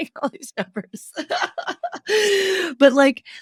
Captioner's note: laughing